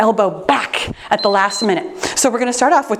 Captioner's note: timer beeps